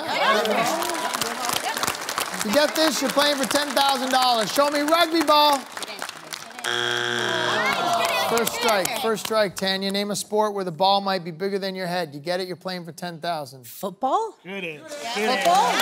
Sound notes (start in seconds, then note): 1.5 applause; 8.5 buzzer sounds